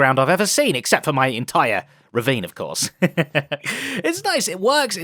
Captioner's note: laughs